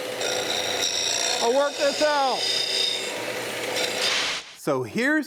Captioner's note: machine roaring; machine roaring